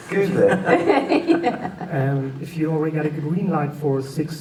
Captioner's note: laughter